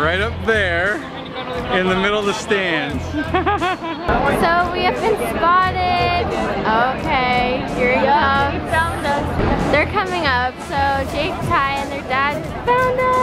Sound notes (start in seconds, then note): 3.0 laughing